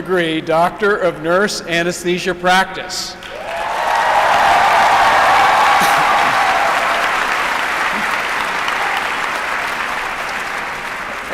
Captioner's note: applause